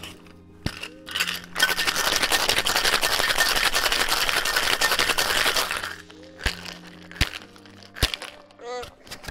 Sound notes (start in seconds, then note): 2.7 clinking; 6.4 tapping